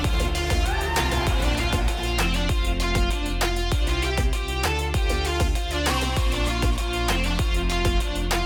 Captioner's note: audience cheering